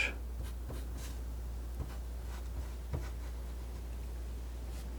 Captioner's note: scratching